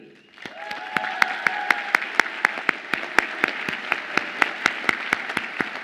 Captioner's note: audience applauds and cheers